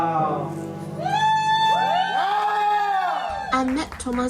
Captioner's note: crowd